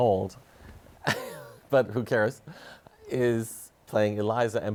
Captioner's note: chuckles